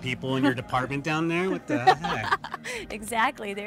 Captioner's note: Keely laughs